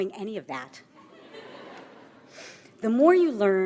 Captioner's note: audience laughs